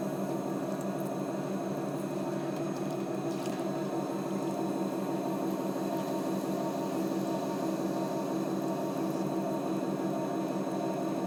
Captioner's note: wheel turning and water splashes